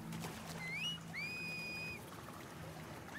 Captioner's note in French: Sifflements